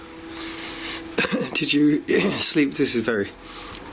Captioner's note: clears throat